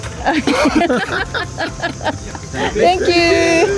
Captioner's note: laughs